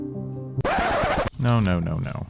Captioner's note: light gentle music; record scratching